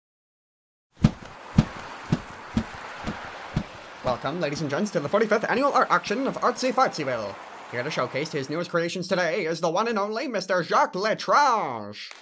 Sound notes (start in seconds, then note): 1.0 bird flapping its wings